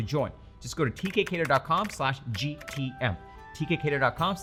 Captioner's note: keyboard clacking